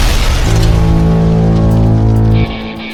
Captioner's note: explosion booms; machine blares; upbeat rock music